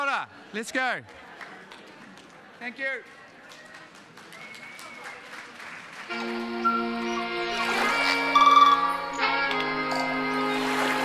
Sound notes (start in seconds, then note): 5.2 audience applauds; 8.4 gentle music